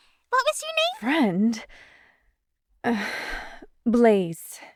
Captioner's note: sigh